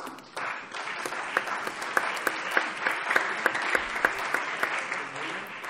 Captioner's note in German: Beifall